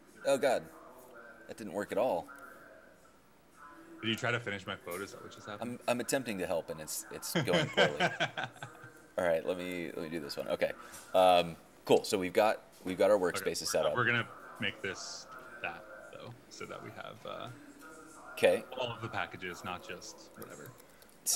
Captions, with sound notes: - Oh God, that didn't work at all. - Did you try to finish my quote, is that what just happened? - I'm attempting to help, and it's going poorly. (laughing) All right, lemme do this one, okay. Cool, so we've got our workspaces set up. - We're gonna make this that, though, so that we have-- - Okay. - All of the packages, not just whatever.